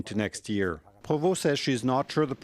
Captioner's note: speaking French